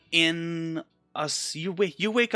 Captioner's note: none